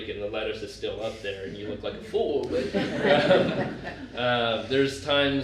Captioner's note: laughter